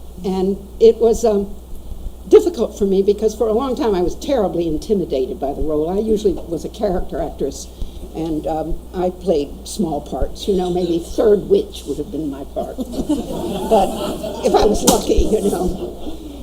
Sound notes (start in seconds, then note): 12.7 audience laughs